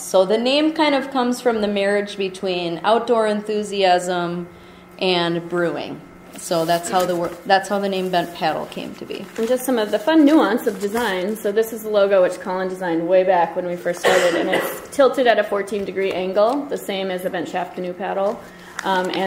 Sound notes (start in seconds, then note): 9.6 voiceover